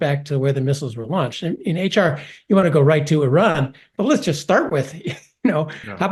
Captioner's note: laugh